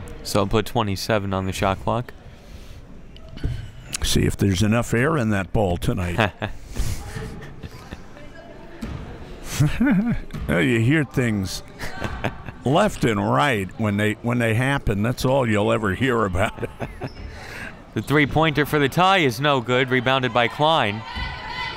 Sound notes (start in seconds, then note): 7.0 laughs; 11.7 laughs; 21.5 chanting